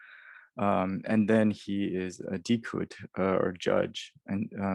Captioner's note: sumerian